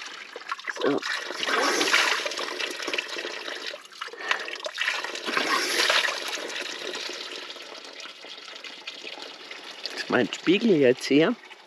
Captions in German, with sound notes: So. (Wasserplätschern) Das ist mein Spiegel jetzt hier.